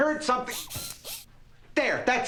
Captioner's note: whirring